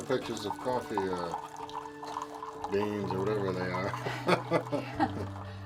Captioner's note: laughs